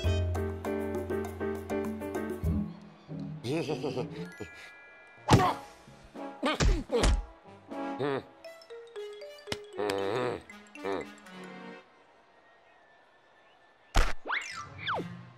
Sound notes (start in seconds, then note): 3.4 sheepish laugh; 6.3 grunting; 9.8 grumbles